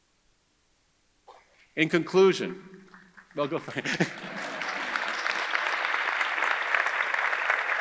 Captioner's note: audience applauding